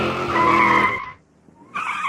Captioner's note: car engine; squealing brakes